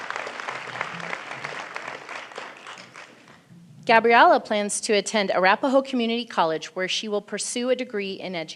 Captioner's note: applause